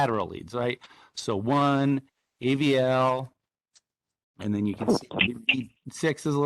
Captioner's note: audio glitch